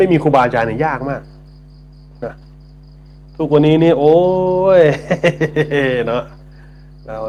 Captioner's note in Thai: เสียงหัวเราะ